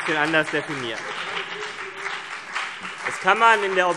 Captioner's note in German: Heiterkeit und Beifall CDU und BÜNDNIS 90/DIE GRÜNEN